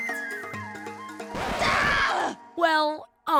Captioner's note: record scratch, shrieking